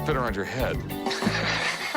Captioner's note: laughs